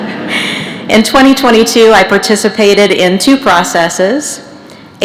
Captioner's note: laughter